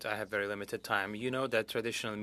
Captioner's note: speaking French